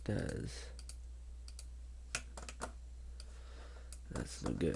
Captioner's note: clicking